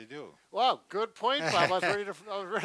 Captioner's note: laughing